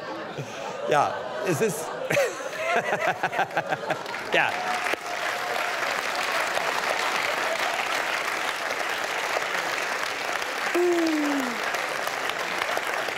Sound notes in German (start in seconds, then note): 2.1 Applaus